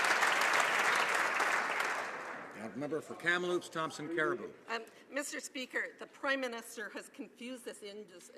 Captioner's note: some Applause